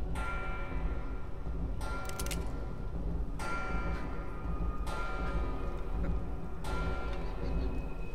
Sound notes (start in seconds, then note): 2.0 gun cocks